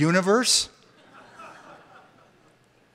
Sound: laughter

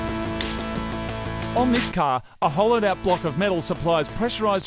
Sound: voice over

